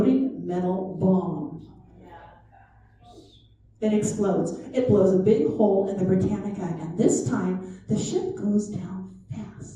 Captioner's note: chatter